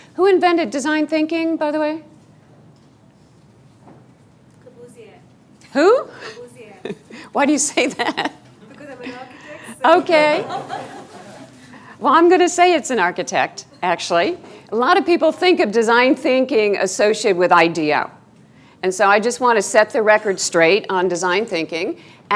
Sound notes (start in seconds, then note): 6.4 laughing; 9.7 students laughing